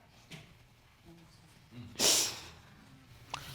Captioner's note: sniffles